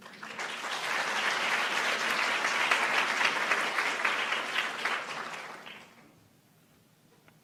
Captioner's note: applauds